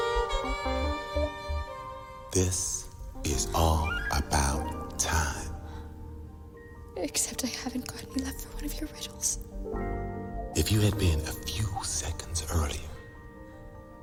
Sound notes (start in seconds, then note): none